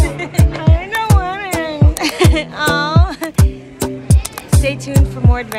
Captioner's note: laughs